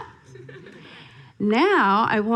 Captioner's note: audience laughing